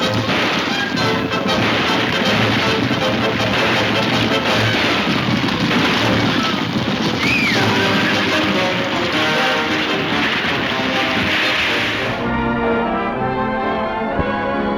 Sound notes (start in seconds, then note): 7.2 Mary screaming; 10.0 water splashes; 11.2 upbeat orchestral music